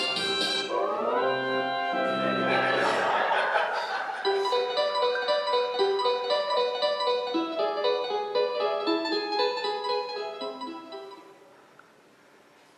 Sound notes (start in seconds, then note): 2.4 laughter